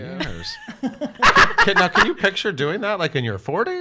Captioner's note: laughs